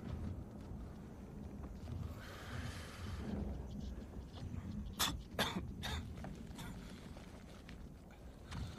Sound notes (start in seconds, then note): 5.0 coughs